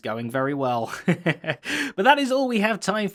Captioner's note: laughs